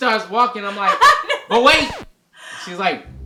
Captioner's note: laughs